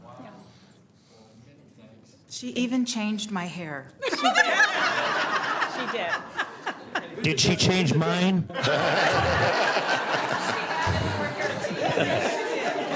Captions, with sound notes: BOARD MEETINGS AND FOCUSED IN ON YOU. YOU. I WANT TO SAY SHE SPENT ABOUT 90 I WANT TO SAY SHE SPENT ABOUT 90 HOURS ON IT. HOURS ON IT. >> WOW. >> WOW. MANY THANKS. MANY THANKS. >> SHE EVEN CHANGED MY HAIR! >> SHE EVEN CHANGED MY HAIR! [ LAUGHTER ] [ LAUGHTER ] >> SHE DID. >> SHE DID. >> DID SHE CHANGE MINE?